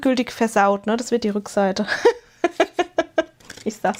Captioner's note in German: gelächter